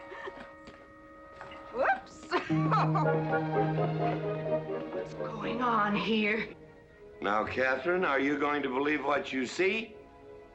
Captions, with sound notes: - Whoops! (giggling) - What's going on here?! - Now, Katherine, are you going to believe what you see?